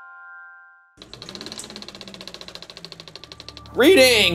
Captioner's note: film clicking